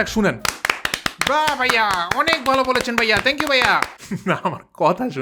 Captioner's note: claps